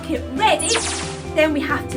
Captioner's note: electronic swoosh